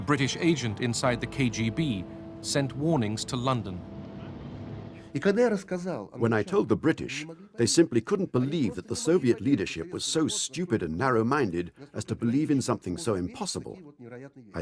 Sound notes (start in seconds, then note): 4.6 speaking Russian